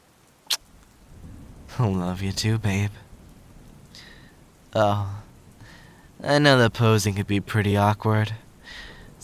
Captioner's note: kisses